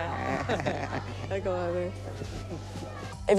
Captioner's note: laugh together